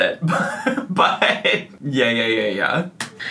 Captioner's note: man chuckling